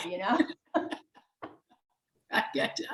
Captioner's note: laughs